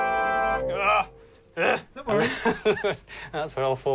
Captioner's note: laughing